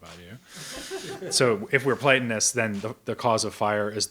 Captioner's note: audience member laughs